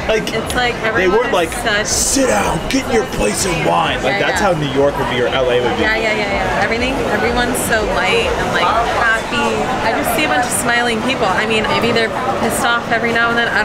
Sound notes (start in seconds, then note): 9.0 passersby murmuring